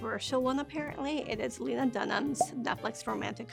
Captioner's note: graphic popping